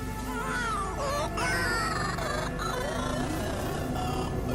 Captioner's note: baby wailing distortedly